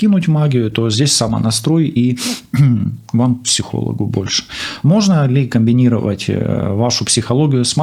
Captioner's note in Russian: откашливается